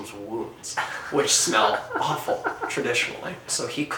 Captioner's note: laughs off camera